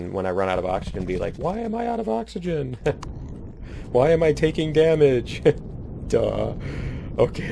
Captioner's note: laughs